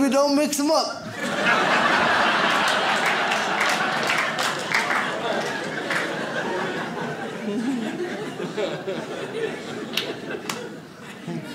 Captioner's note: audience laughs